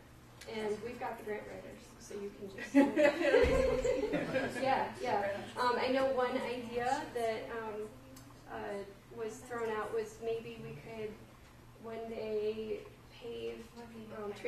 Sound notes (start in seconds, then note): 2.6 laughter